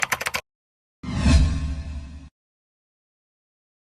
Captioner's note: keyboard clacks